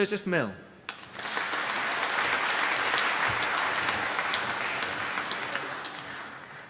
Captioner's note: applause